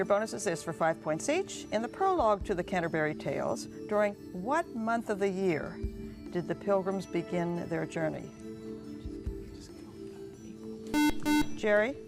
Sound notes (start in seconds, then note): 7.6 whispering; 9.4 buzzer